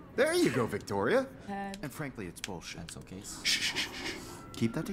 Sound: shushing

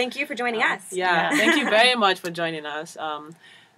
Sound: laugh

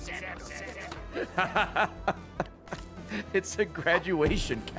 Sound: laughs

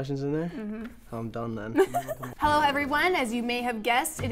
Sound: laughter

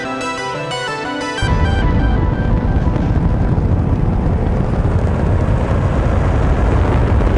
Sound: rocket fuel burning

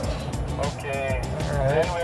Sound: man Through Radio

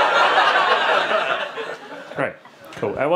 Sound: audience laughing

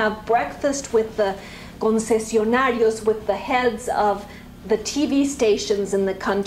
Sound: spanish

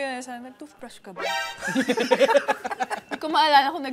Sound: laughter

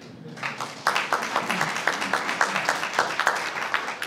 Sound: applause

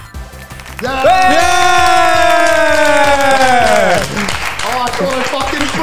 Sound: group applaud

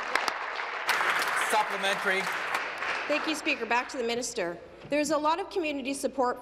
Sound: applause

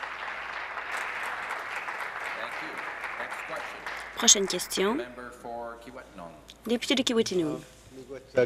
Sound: applause

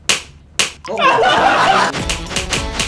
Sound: A clear sound that spreads through the room

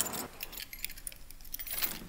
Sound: door unlocks

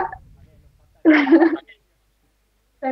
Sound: laugting

